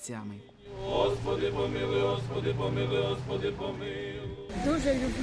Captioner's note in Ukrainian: молятся